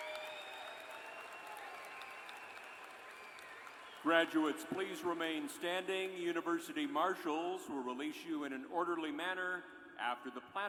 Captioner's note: cheers and applause